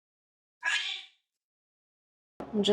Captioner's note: duck sounds